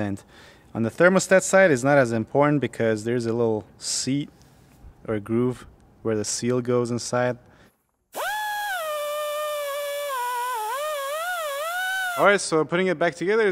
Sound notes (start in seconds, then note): 8.2 high pitched whine